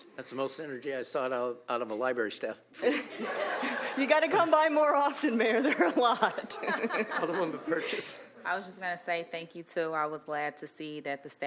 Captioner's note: laughter